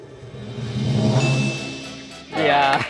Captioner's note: drum roll hisses; bell chimes